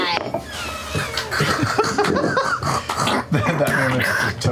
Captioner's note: laughter